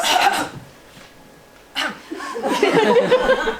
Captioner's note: coughs